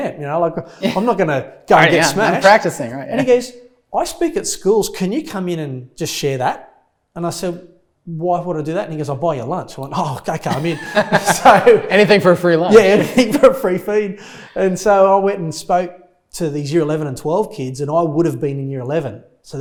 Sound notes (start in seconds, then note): 10.4 laughs